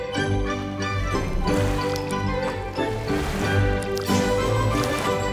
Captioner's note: upbeat music; water splashing